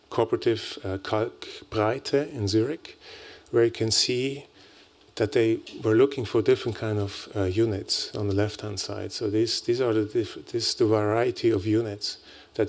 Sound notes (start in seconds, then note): 1.0 non-english speech